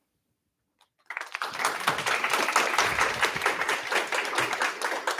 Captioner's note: applause